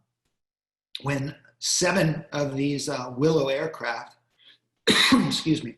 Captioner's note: coughing